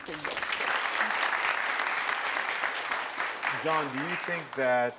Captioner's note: crowd cheering